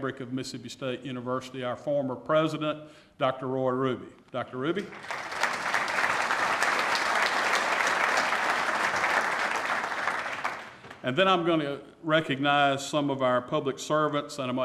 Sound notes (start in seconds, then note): 6.5 applause